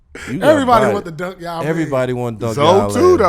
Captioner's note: laughing